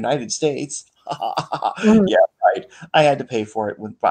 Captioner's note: laughs